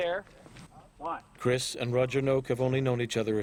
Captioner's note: voiceover